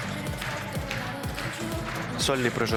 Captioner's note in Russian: аплодисменты